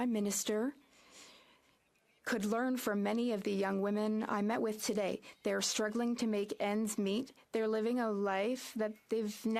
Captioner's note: speaking French